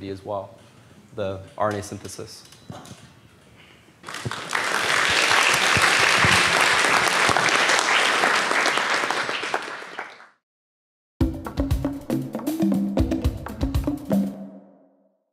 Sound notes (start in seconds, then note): 4.0 audience claps